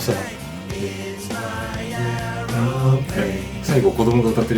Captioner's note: humming